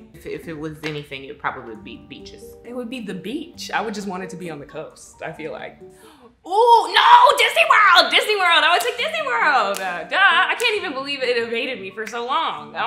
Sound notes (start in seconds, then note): 5.9 gasps